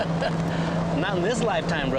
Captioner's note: chuckles